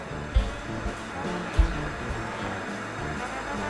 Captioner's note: television static